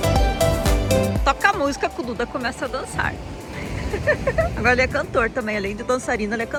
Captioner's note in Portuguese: risadas